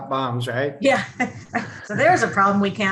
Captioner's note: chuckles